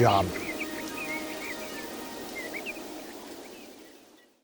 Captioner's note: birds chirping